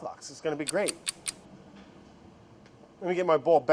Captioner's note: clock ticking